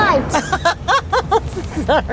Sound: laughs

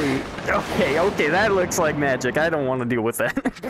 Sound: lightning zaps; laughing

